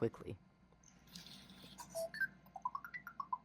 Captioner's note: gear noises; ERS-111 cheerfully beeping